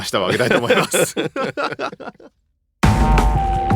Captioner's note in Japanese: 笑い